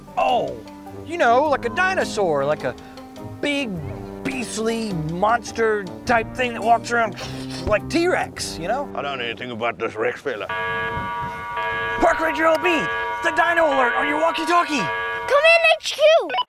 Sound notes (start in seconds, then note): 10.4 alarm sirens